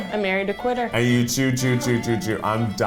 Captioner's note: mumbling